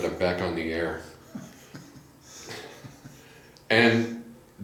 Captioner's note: laughs